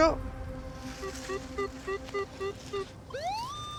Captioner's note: beeping